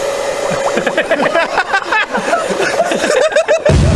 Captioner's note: both laughing